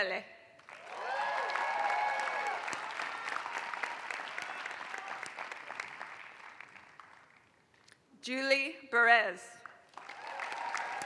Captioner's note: applause